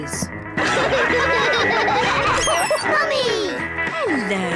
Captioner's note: all laugh